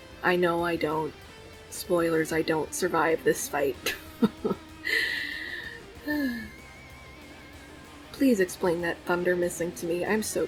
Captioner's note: laughs